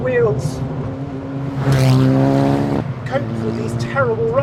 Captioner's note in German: Motordrehzahl steigt weiter an